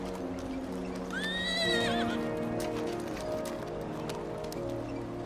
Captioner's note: horse neighs